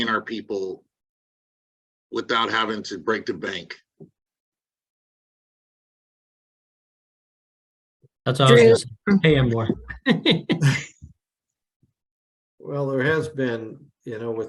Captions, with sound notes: our people without having to break the bank? - That's- - Drew is... - Hey, Amor. (chuckles) - Well, there has been, you know,